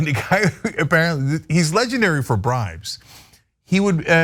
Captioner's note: laugh